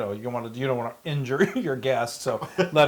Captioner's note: laugh